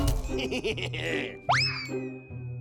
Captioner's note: laughs evilly